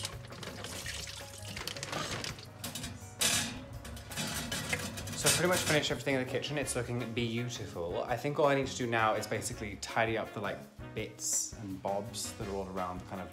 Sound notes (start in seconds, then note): 0.0 liquid pouring; 1.6 rattling